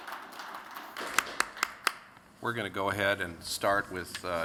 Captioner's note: applause